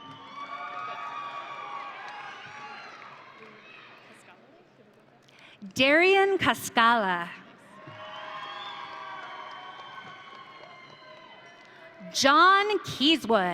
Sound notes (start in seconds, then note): 0.0 audience cheering; 7.8 audience cheering